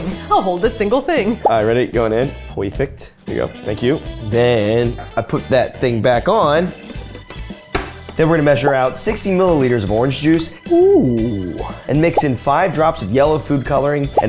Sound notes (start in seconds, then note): none